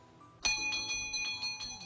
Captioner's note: doorbell rings